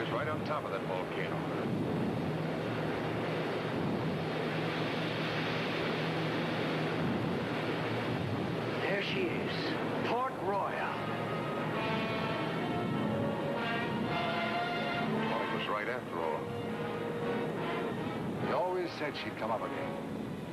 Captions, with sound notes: - It felt like we was right on top of that volcano. (ocean rumbling continues) - There she is. Port Royal. (tense music) - Tony was right after all. - He always said she'd come up again.